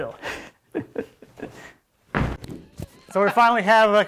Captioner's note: laughing